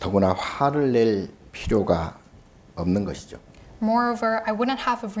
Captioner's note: speaking Korean